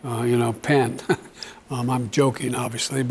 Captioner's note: chuckles